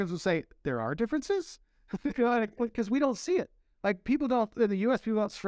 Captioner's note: laughter